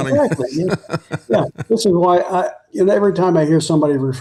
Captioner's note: laughing